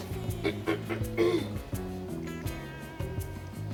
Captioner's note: clears throat